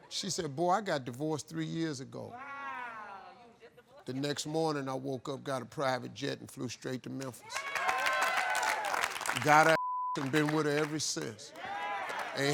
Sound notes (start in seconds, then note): 2.4 crowd; 7.4 crowd cheering; 9.7 beep